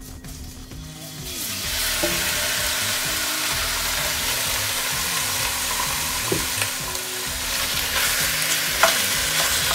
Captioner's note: sound of chicken cooking